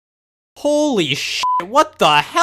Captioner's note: upbeat music; beep